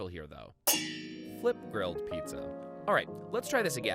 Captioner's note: metal clangs